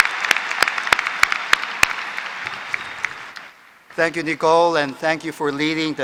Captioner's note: applause